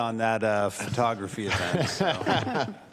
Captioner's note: laughter